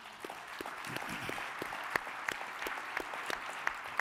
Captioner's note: audience claps